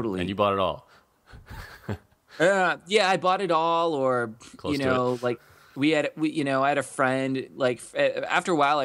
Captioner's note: laughs